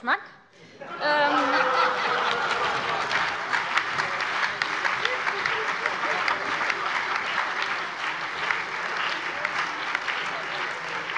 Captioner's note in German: Heiterkeit und Beifall